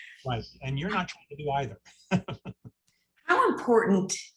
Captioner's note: laughing